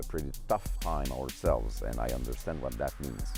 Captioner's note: speaking French